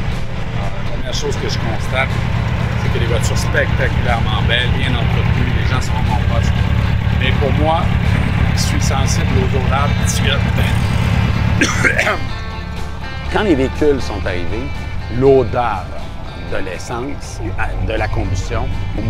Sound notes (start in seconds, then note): 11.6 cough